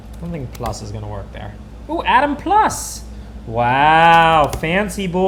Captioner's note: slapt